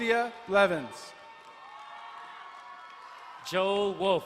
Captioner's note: crowd cheering and applauding